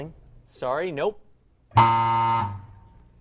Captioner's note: error buzzer